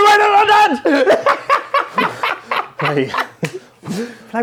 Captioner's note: laughs